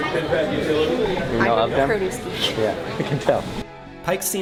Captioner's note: laughs